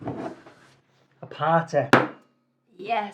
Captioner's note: bottle thuds